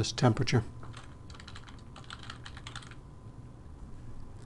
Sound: typing

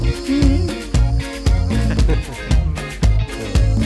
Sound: Swamy's father and Swamy chuckling

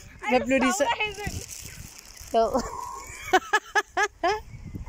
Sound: laughing

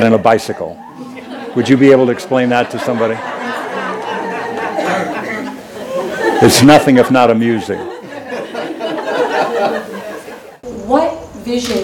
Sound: few laugh; laughter; laughter

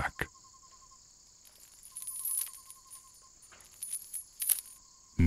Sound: chains rattle as your wrists are bound

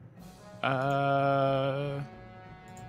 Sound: none

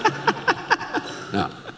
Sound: laughs

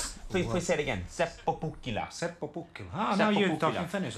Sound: speaking foreign language

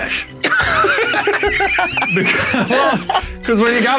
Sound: laughing

